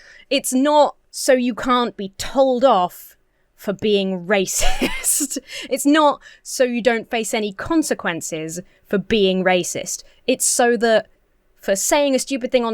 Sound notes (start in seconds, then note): 4.5 laughs